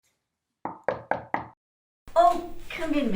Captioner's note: knock on door